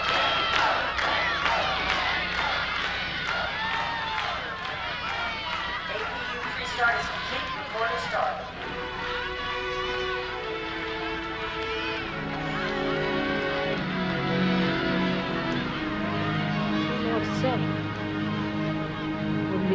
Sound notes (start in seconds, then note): 9.6 crowd cheers in background; 9.6 gentle somber music